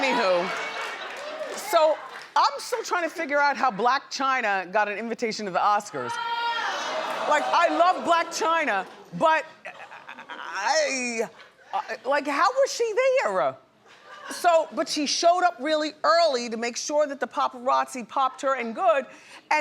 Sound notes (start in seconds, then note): 6.2 audience exclaims